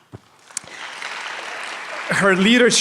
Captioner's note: applause